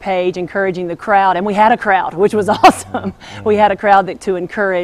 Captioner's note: chuckles